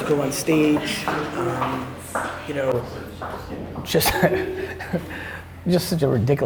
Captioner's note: giggle